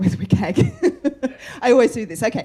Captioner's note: laughter